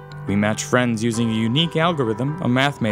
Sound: voiceover

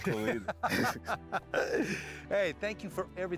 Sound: laughter

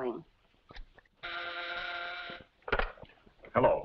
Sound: intercom buzzes

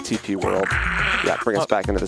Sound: roars

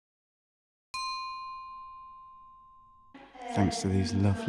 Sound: bell dinging

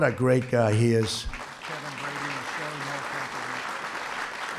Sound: applause

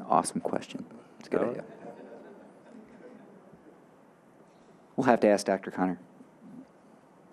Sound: audience laughing

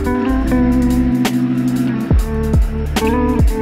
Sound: vacuum whirring

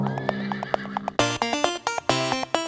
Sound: horse neighing; hooves beating

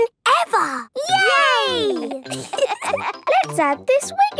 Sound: laughter

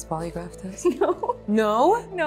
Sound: laughing

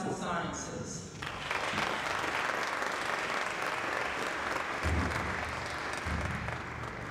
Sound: applause

